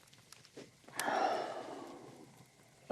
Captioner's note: sighing